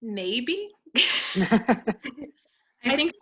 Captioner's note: laughing